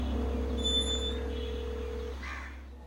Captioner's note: phone calling